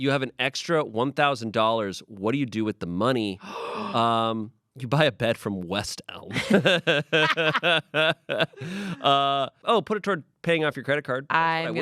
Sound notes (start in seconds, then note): 6.3 everyone laughs